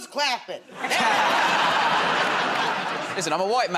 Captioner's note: laughter